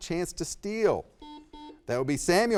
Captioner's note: buzzer beeping